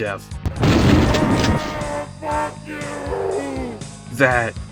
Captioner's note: screams